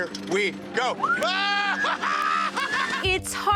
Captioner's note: both screaming